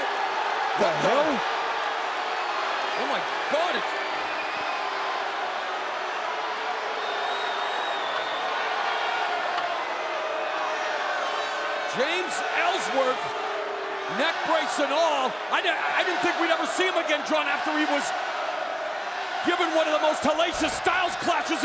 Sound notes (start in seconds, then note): 5.9 audience jeering